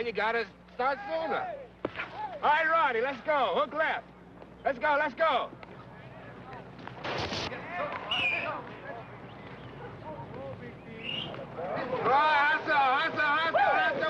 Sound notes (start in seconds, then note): 7.0 player's foot scraping sand; 8.0 whistle whistling